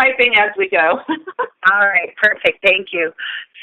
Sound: chuckle

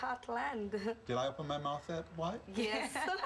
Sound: laughing

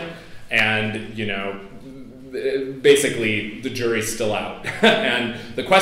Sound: laughs

